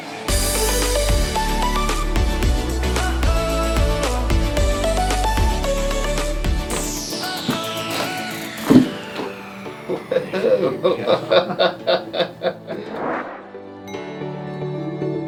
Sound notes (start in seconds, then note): 1.1 happy music plays; 8.4 bones popping; 9.8 laughing